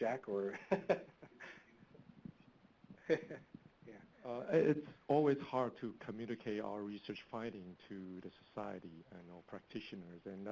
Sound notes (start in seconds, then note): 1.1 laughing